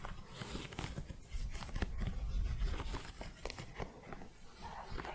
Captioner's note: thick scratching